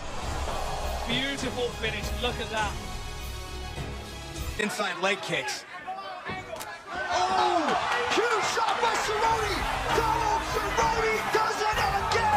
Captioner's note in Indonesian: Tepuk tangan